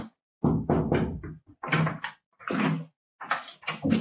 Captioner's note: knocking